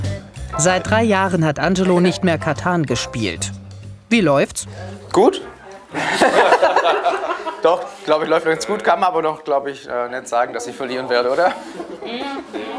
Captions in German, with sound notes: Seit drei Jahren hat Angelo nicht mehr Catan gespielt. Wie läuft's? Gut. (Lachen) Doch, läuft ganz gut. Kann man wohl noch net sagen, dass ich verlieren werde, oder?